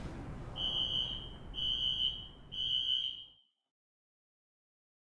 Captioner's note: alarm screeching